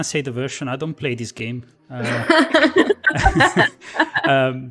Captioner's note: laughter